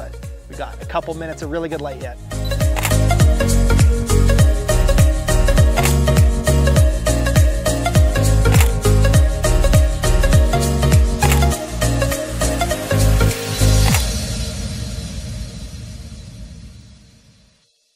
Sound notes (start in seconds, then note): 2.4 beep and click; 4.1 electronic music; 6.0 click